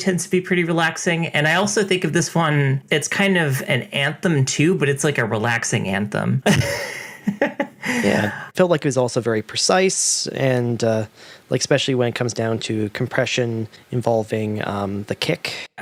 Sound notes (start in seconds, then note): 6.5 laughs